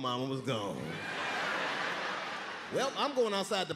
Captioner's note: crowd laughing